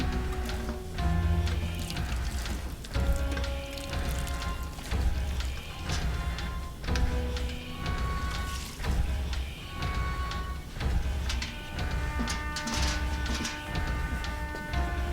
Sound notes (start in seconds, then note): 3.7 hissing; 6.1 splashing